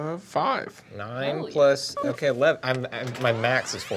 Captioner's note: electronic whooshing